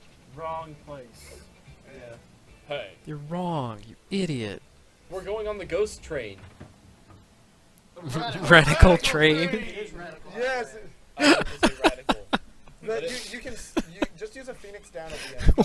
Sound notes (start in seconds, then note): 8.4 chuckling; 11.2 laughs